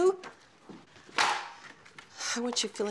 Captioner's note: paper thwacking on counter; sighs